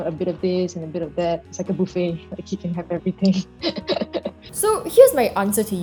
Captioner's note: laughs